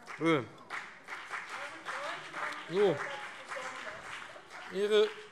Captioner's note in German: Beifall BÜNDNIS 90/DIE GRÜNEN und CDU - Zurufe DIE LINKE